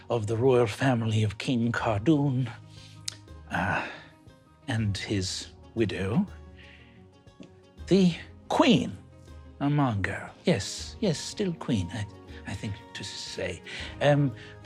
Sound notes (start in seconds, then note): none